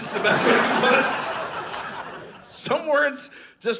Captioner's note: audience laughing